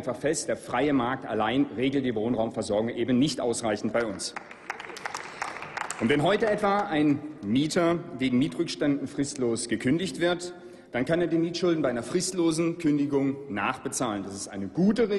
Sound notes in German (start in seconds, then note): 3.9 Applaus